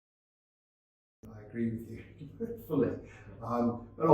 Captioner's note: chuckles